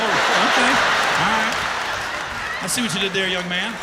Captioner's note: laughter